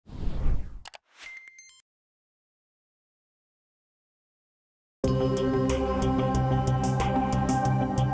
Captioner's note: whoosh